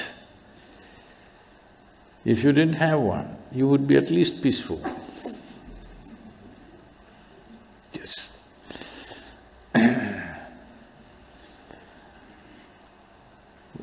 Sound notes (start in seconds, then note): 8.7 laughs